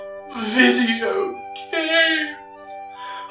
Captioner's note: high pitched male voice